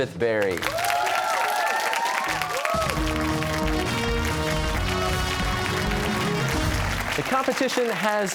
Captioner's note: cheers and applause